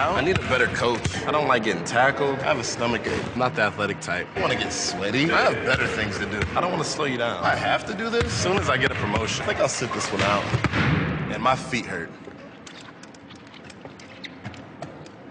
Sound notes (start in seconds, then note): 10.1 balls slam on gym floor